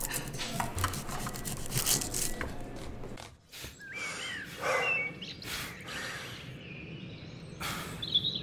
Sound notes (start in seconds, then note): 0.0 kitchen noise